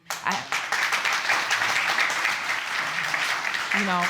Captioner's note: audience applauds